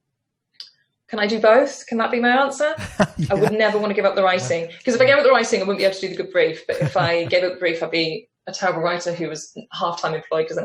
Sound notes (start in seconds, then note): 2.8 laughs; 6.7 laughs